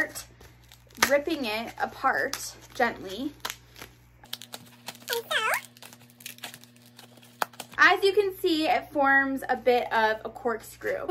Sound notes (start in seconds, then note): 4.2 ripping